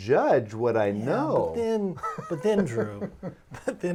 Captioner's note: laughing